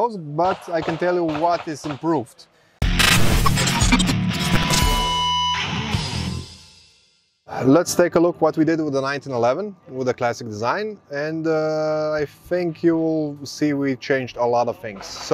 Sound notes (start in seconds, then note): 2.8 uptempo rock music; 2.8 static buzzing